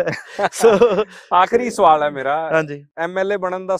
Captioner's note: laughs